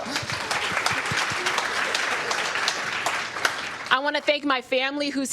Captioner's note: applause